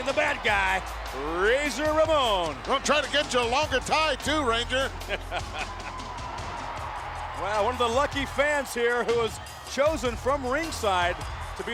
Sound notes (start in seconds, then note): 5.0 laughing